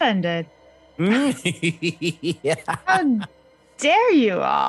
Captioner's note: Omega giggles eldritchly